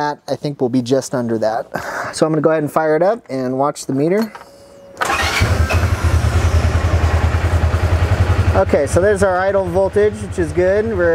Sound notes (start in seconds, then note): 4.9 engine starts